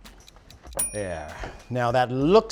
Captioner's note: ding SFX